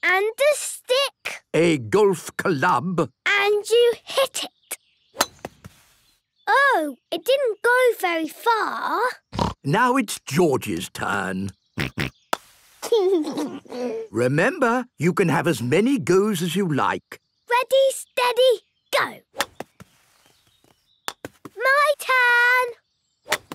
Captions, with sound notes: - And a stick... - A golf club. - And you hit it. Oh. It didn't go very far. (snort) - Now, it's George's turn. (snort, laughing) Remember... You can have as many goes as you like. - Ready.. Steady... Go! My turn!